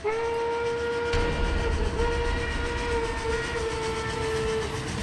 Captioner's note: train whistle blowing